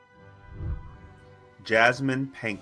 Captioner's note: whooshing